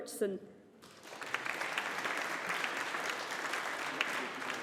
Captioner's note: audience applauding